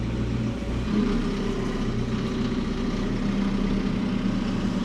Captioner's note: machinery rumbling